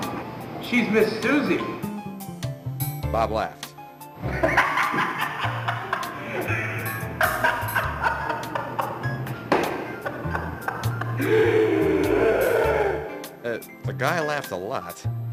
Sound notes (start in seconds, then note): 4.2 insane and persistent laughter